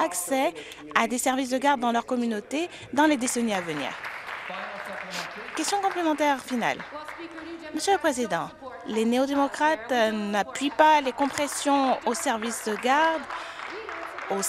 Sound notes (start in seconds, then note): 8.3 some Applause